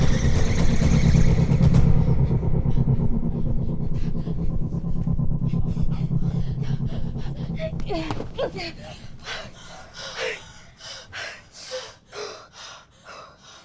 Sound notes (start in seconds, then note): 7.3 Jane and Merritt panting